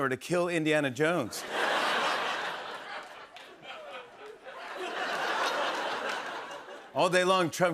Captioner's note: laughter